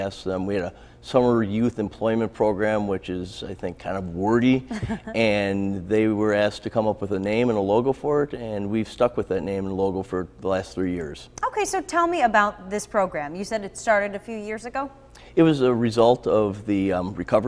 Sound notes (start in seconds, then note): 4.6 chuckles